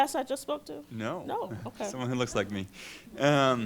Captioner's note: voiceover